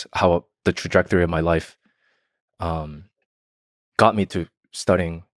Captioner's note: none